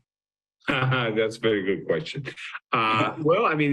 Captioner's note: chuckles